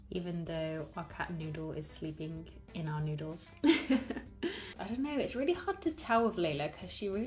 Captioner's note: laughs